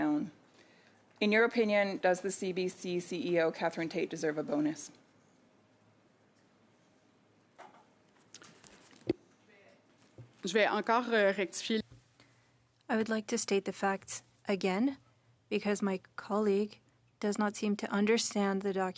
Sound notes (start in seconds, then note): 14.5 speaking French